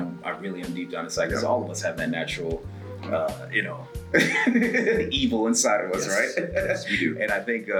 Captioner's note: laugh